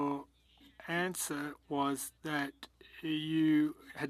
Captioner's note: speaking French